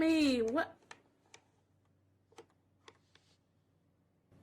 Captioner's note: keyboard clicks